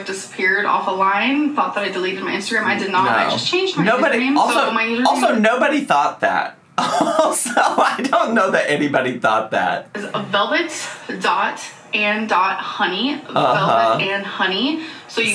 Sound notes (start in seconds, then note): 6.8 laughs